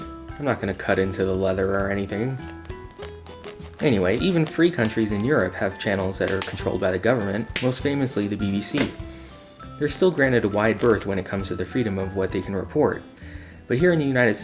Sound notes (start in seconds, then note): 2.5 styrofoam popping